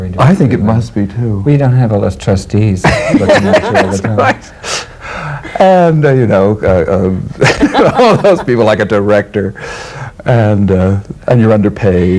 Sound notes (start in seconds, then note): 2.8 laughing drowns out speaker; 7.4 laughs